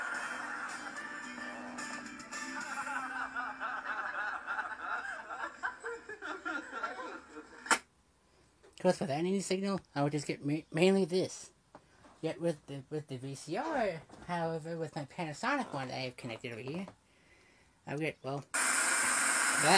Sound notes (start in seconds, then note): 0.1 canned generic laughter; 2.3 laughing; 5.4 laughter dies down; 7.8 signal dies; 18.4 static